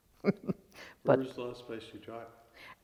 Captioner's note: laughs